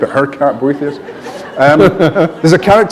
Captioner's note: laughter